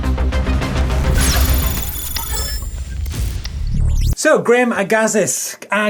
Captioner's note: digital sounds